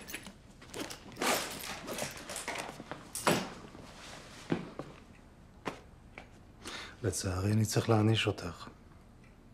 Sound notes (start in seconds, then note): 0.7 zipper closing